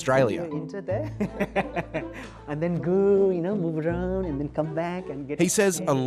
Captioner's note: laughs